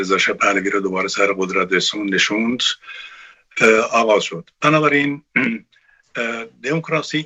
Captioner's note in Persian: گلویش را صاف می‌کند